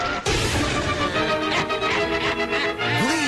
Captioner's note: water splashing; electricity crackling; spider laughing